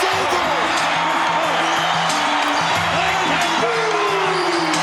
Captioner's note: upbeat music; announcer vocalizing; crowd cheering drowns out speakers